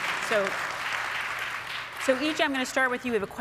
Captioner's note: audience applauds